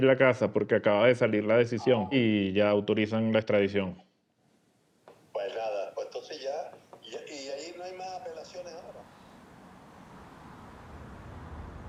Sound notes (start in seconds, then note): 4.5 on phone